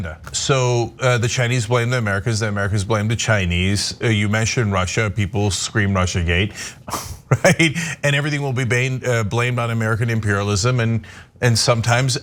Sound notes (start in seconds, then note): 6.9 laugh